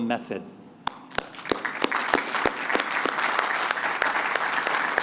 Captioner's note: applause